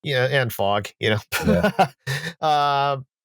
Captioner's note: laughs